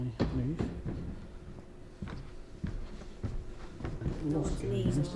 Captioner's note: heavy footfalls